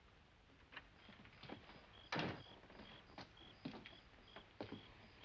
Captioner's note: crickets chirping